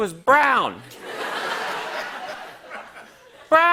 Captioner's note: laughter